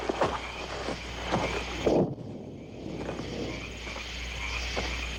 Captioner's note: distant Bombing